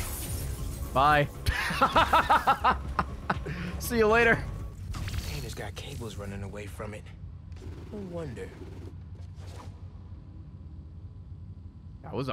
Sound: laughs

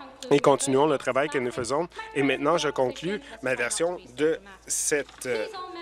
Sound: speaking French

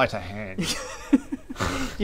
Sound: laughs

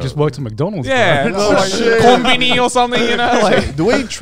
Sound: group chatter

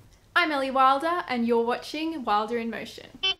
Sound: beep, beep

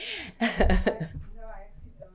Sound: laughing

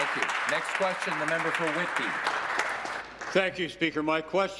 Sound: applause

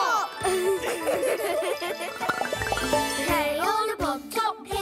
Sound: laughter

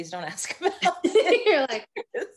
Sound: both laughing

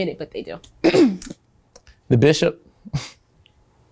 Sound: laughs

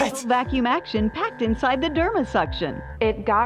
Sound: voice-over

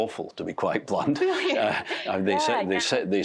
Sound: laughter

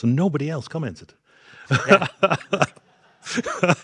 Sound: group laughing

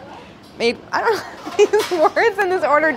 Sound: laughs

